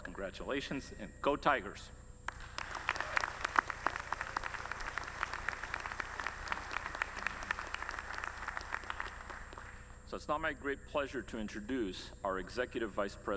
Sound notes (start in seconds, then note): 2.2 applause